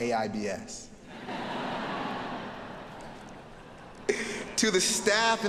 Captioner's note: audience laughing